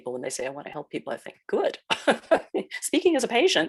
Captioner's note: chuckles